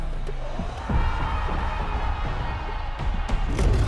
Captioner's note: crowd cheering